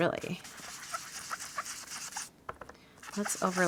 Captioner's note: blending tool scrubbing